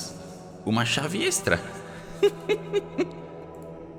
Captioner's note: laughs